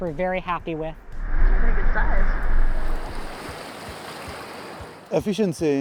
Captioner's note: rushing water